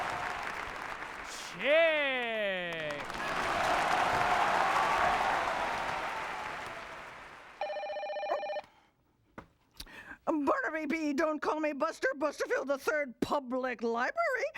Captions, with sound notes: ( loud applause ) ( telephone rings ) OH! BARNABY B. "DON'T CALL ME BUSTER" BUSTERFIELD III PUBLIC LIBRARY-- INFORMATION HEN.